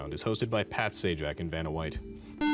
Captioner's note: buzzer